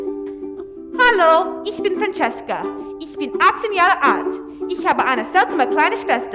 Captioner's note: speaks in German